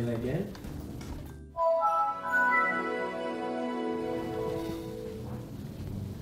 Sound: chime plays

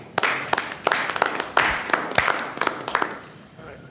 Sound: audience applauding

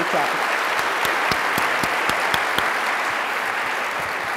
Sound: applause

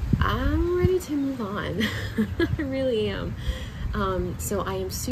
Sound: chuckles softly

